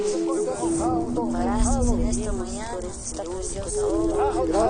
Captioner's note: speaks in foreign language